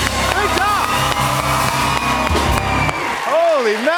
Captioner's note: cheers and applause